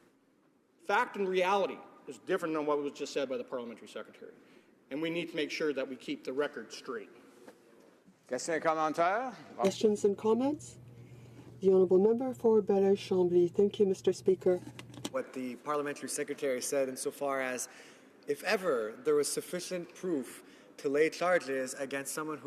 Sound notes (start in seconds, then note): 14.4 speaking French